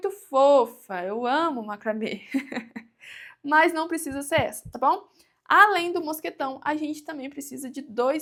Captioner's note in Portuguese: risadas